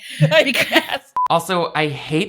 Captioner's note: both laughing